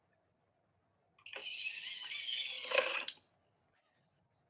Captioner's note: whirring